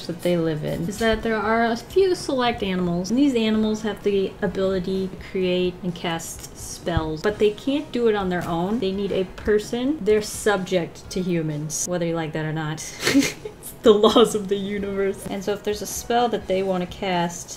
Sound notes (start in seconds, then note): 12.9 laughs